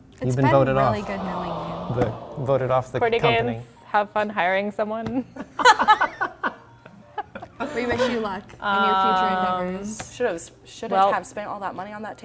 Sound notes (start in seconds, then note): 5.4 laugh